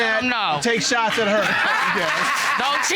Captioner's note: audience exclaims, applauds